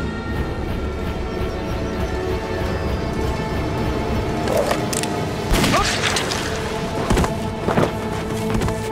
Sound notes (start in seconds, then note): 5.1 gun fires